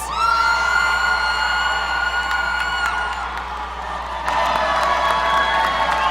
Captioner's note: audience cheering; audience applauding